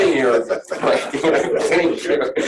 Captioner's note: laughing